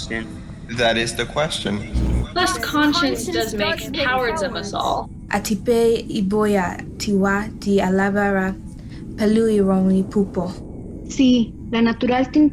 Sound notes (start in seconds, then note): 5.5 speaking in foreign language